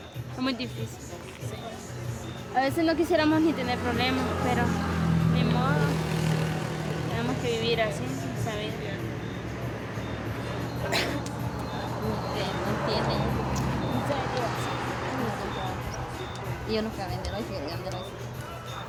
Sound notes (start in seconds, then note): 10.6 coughs; 12.5 speaking in foreign language